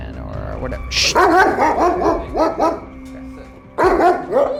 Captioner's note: barking